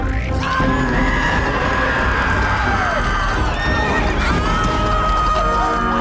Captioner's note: screaming